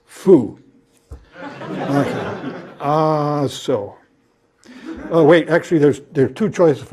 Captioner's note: laugh